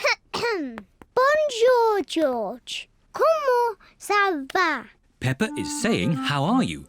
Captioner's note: coughs